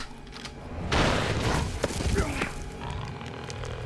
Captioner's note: gun firing